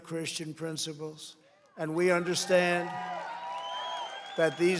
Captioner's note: applause